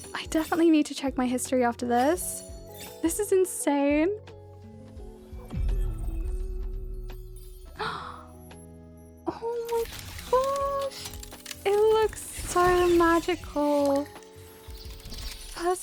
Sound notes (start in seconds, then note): 7.8 gasp